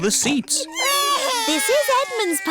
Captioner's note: babies crying